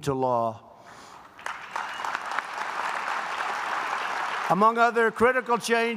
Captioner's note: applause